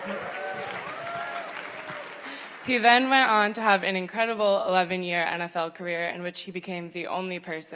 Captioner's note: cheers and applause